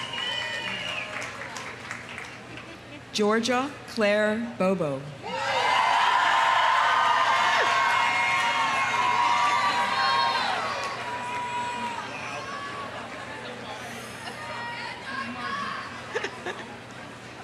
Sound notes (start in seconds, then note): 0.0 audience cheering; 0.0 audience applauding; 5.2 audience cheering; 5.4 audience applauding